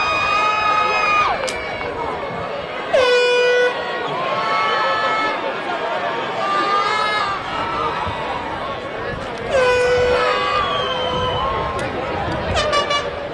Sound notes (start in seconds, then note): 2.9 air horn blasting; 6.8 audience continues cheering